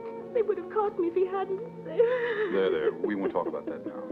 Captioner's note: crying